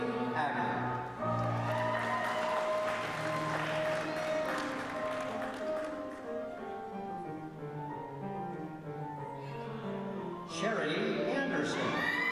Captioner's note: applause